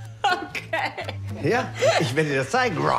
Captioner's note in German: lachend